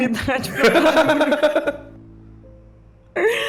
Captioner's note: laughing